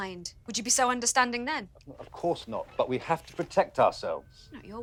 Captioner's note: none